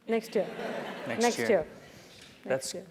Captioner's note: laugh